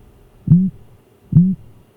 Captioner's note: squeaking